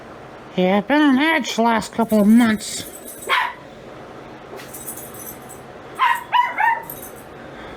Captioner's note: Ella barking off-screen